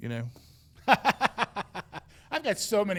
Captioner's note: laughing